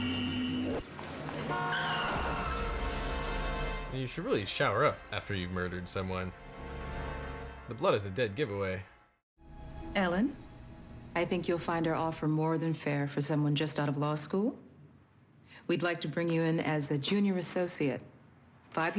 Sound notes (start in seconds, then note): 1.6 taxi honks; 1.6 tires screech; 2.1 dramatic music